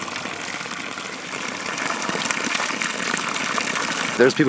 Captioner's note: flowing spring water